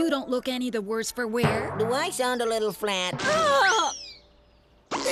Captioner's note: Weather Lady groans